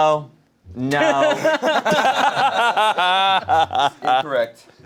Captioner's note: laughing